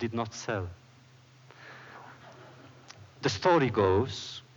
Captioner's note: laughter